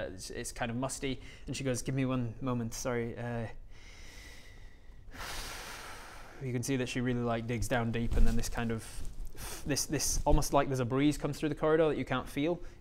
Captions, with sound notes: it's kind of musty and she goes give me one moment, sorry *exhales* you can see that she really like digs down deep and then this kind of this almost like there's a breeze come through the corridor that you can't feel